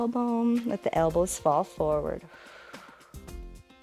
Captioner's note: exhales